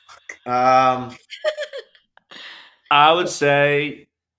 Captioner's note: laughing